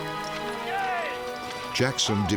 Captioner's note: soldiers shouting